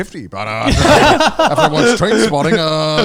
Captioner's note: everyone laughs